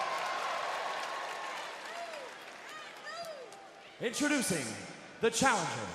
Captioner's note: crowd cheering